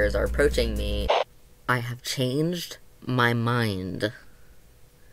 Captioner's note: static